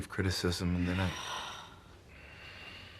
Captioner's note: slGHlNG